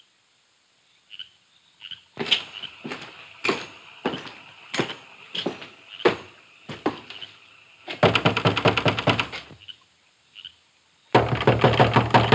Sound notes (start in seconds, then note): 0.2 frogs croaking; 2.1 footsteps tapping; 7.9 door tapping